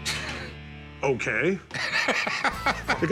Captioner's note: laughter